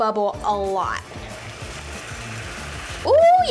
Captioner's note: caramel sizzles